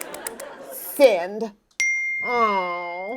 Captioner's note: ding